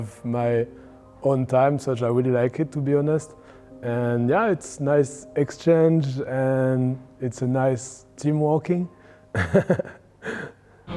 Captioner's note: laughs